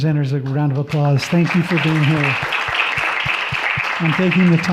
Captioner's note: audience clapping